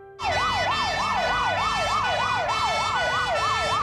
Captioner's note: sirens blaring